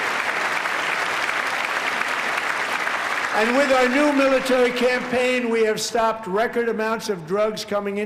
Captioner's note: applause